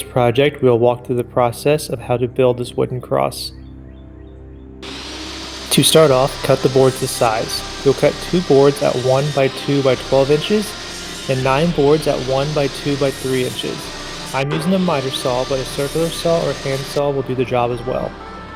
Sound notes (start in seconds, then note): 3.9 saw roaring